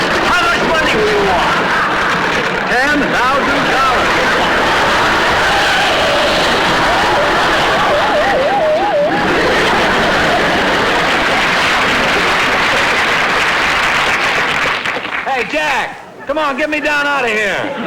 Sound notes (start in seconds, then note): 4.2 heavy Screeching of Wheel Brake; 9.3 audience Laughing and Applauding